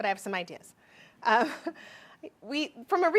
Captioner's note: laughs